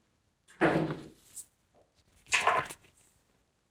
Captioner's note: door slams